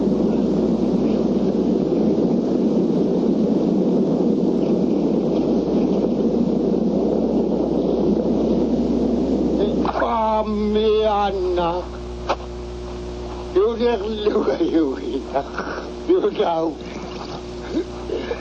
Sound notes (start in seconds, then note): 3.8 wind howling